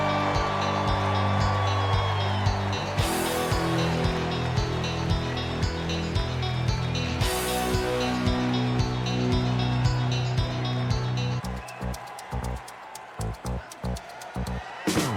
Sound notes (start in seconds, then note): 4.1 cheers and applause